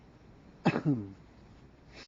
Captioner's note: coughs